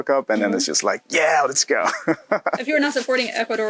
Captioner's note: laughs